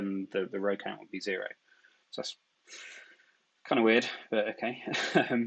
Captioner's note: chuckles